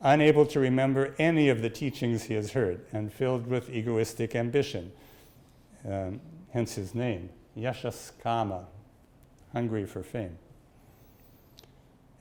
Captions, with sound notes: Unable to remember any of the teachings he has heard and filled with egoistic ambition, hence his name, (speaks in Sanskrit) hungry for fame.